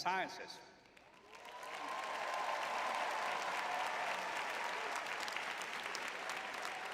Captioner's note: crowd cheering